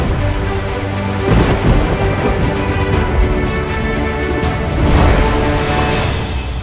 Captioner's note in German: Donnergrollen...Meeresrauschen